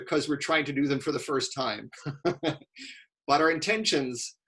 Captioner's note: laughing